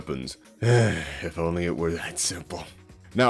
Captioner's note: sigh